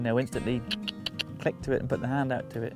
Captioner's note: clicks tongue